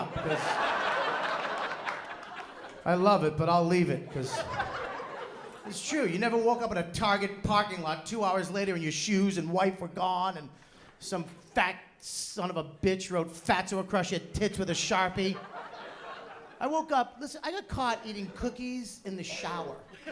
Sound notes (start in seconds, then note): 0.0 laughter; 4.0 laughter; 15.1 laughter